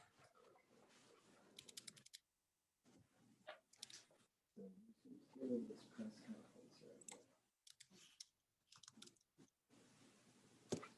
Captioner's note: keyboard tapping